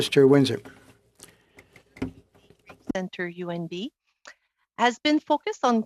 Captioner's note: speaking French